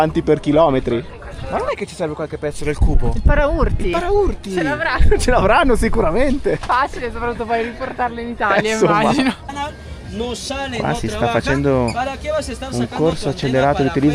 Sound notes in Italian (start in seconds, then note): 10.8 risate